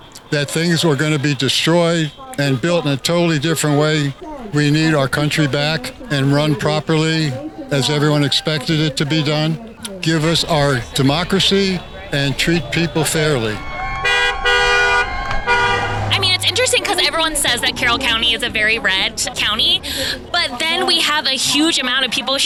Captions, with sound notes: that things were going to be destroyed and built in a totally different way. We need our country back and run properly as everyone expected it to be done. Give us our democracy and treat people fairly. [Cars honking] I mean, it's interesting ‘cause everyone says that Carroll County is a very red county, but then we have a huge amount of people